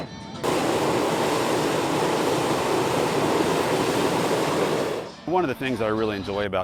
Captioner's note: hot air balloon sounds